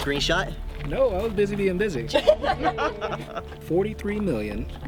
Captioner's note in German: andere lachen